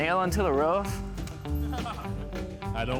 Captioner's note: laughs